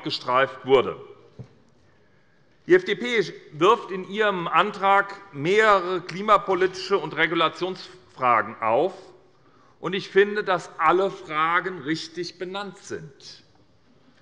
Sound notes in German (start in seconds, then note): none